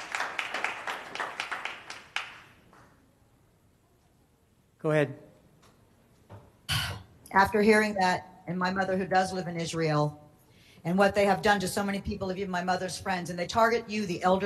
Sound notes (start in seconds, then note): 0.0 applause